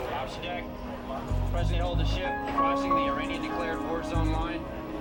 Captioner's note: crew chattering